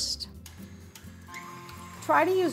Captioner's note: mixer whirring